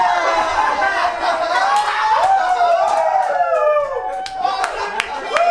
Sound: everyone cheering

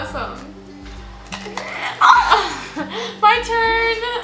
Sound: cake crunching; gasps

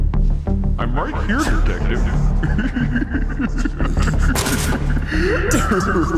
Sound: laughs

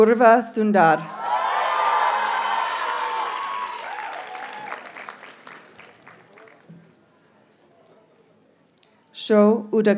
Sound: audience cheers and applauds

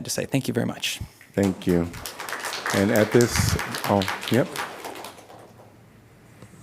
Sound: applause

